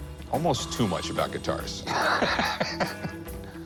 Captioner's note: laughing